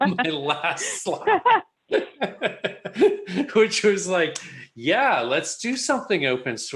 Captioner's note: laughter